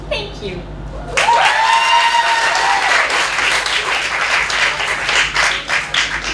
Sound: applause

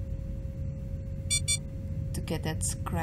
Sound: failing airlock warning sound

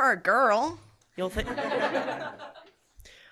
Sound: laughter

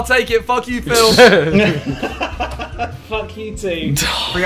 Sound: laughs

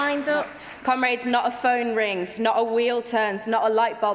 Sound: applause

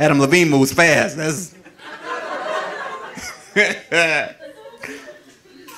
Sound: audience laughing

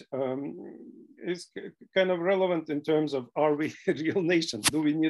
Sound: laughter

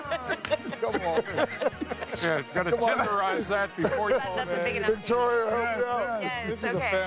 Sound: laughter

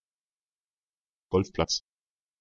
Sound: fast Pronunciation

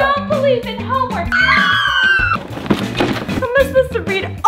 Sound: kids cheering

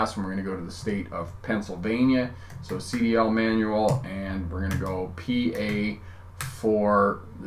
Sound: typing

